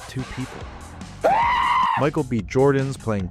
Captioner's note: screams